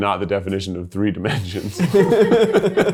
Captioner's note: laughs; all chuckle